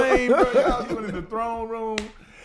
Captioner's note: laughing